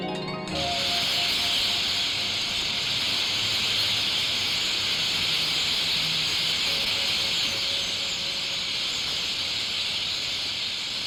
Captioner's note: birds chirping en masse